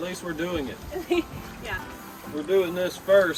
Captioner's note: laughter